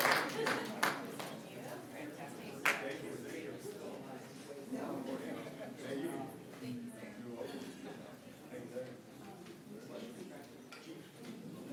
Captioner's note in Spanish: aplausos